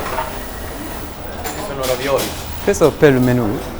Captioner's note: Italian